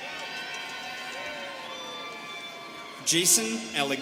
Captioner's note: students cheering